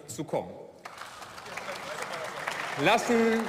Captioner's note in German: Beifall